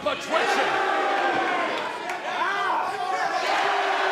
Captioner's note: crowd cheering